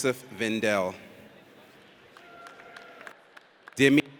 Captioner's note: audience applauds